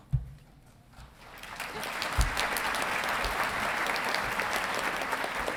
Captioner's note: audience clapping